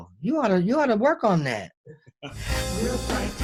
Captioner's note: laughs